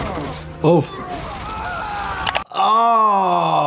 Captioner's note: fighter groaning; fighter shouting; screen clicking